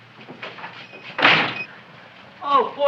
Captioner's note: door slams